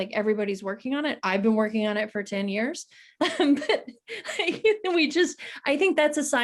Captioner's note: chuckles